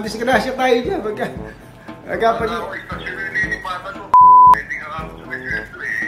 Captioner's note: toooot!